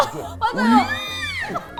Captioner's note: squealing sound